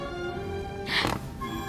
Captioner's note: Kihel sighs